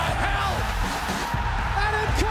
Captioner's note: crowd cheering